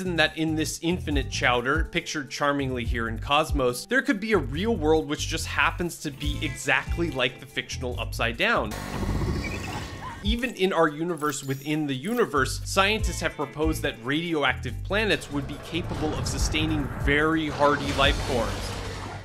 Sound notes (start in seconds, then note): 8.3 ominous instrumental music; 9.0 alien chitter; 19.0 gunshots